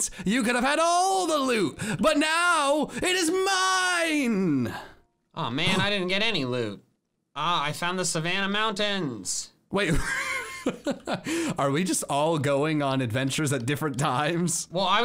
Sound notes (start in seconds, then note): 9.9 laughs